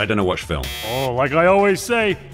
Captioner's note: buzzer sound